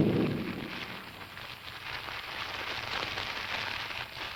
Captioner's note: fire crackling